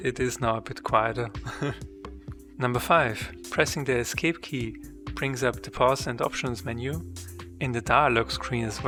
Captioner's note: chuckles